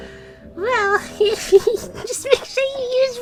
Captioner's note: giggling